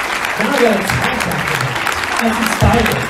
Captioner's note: applause drowns out speech